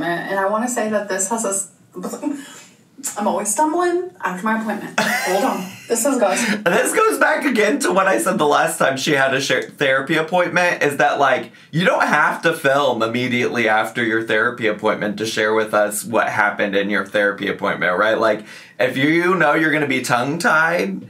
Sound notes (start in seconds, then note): 5.0 laughing